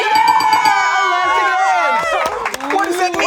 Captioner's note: group cheers